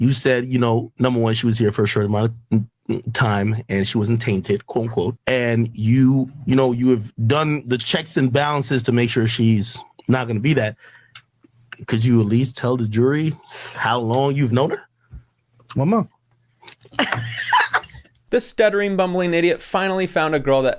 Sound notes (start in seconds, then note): 16.9 people laughing